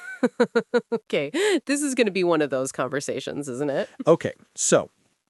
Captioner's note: laughing nervously